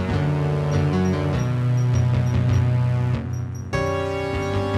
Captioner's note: bip, bip, bip